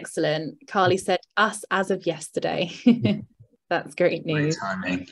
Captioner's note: chuckles